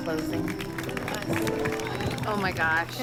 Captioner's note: audience claps